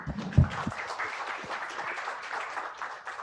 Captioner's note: clapping